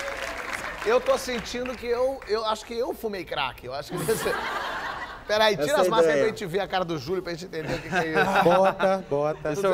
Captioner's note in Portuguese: aplausos